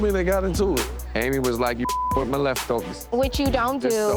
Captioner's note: beep